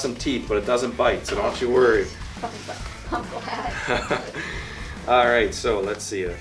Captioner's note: laughter